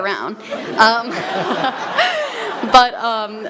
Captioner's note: laughter